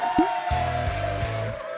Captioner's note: applause